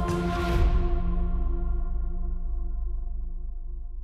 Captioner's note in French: none